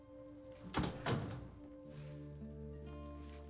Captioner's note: door closes